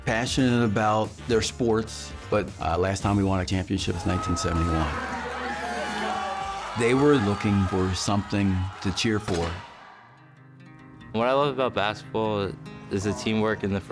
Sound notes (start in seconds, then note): 3.9 cheering